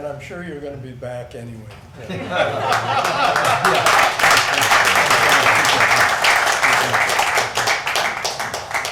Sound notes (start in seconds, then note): 2.0 crowd laughing; 2.6 crowd clapping